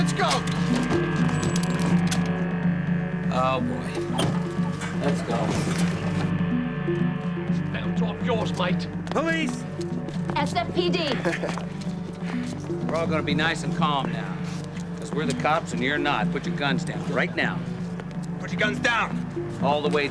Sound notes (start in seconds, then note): 10.8 chuckles